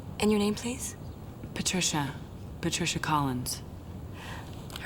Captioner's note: none